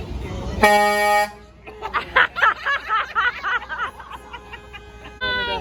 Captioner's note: moms laughing hysterically